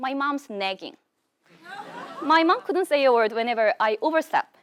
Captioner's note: laugh